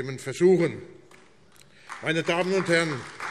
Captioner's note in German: Beifall AfD